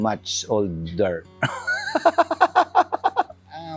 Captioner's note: laughs